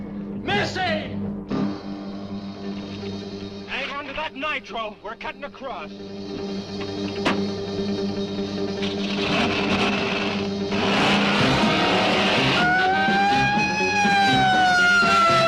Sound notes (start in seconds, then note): 10.0 engine revving; 12.7 sirens blaring